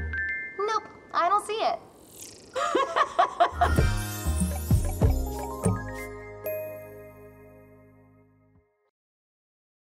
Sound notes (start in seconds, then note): 2.6 laughing